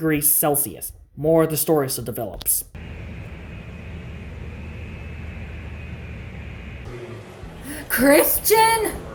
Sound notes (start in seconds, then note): 2.7 airport Traffic